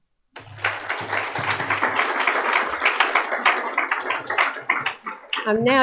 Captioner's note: applause